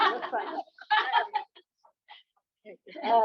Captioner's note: laughter